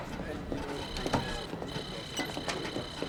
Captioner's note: computer trilling and beeping